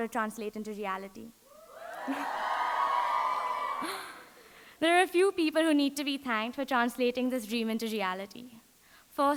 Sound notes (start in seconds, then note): 1.5 audience cheering